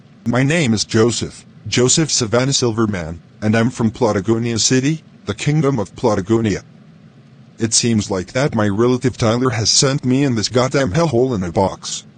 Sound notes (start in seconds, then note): none